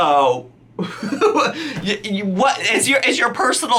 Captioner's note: laughs